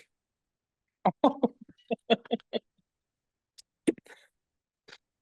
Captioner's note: laughs